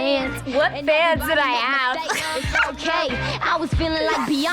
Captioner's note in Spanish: risas